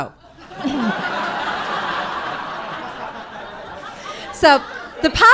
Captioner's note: audience laughing